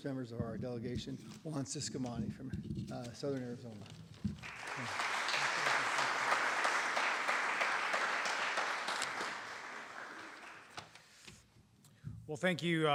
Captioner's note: applause